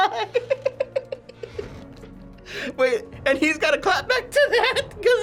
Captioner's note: laughs